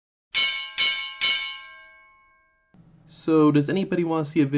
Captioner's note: bell dings